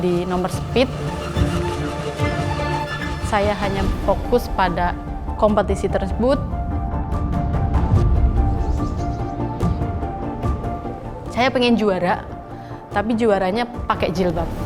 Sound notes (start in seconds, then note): 1.2 exciting music continues; 6.6 exciting music continues; 8.4 birds singing